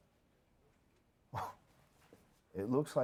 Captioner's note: scoffs